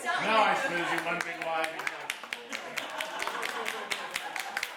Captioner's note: clapping